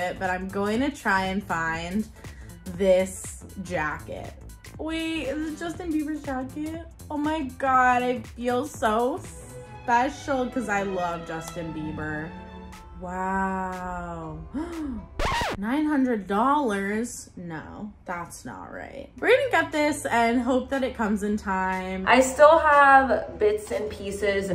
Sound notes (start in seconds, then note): 14.1 gasps; 15.1 record scratch